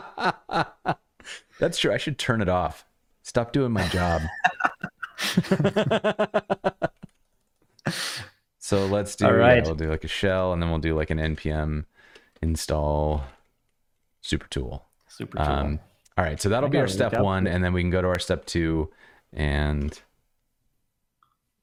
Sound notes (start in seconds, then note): 3.8 laughter